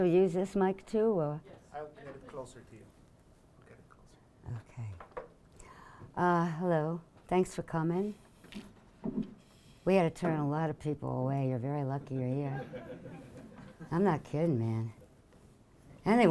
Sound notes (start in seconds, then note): 1.7 voiceover; 12.2 audience laughing